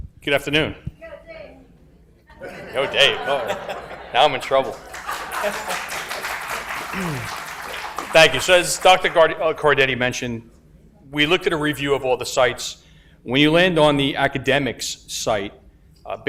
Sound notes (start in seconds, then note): 2.3 audience laughs; 5.9 laughs; 6.6 audience applauds